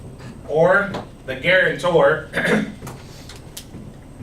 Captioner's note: clears throat